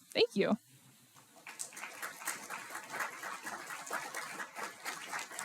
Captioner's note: applause